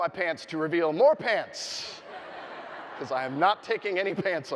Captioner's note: audience laughing